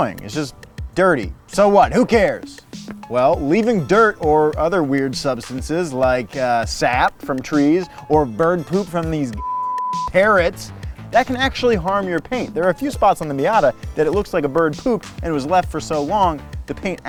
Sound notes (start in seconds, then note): 9.4 beep